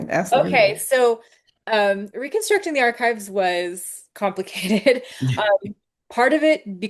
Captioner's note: chuckles